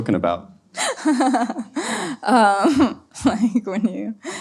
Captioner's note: laughs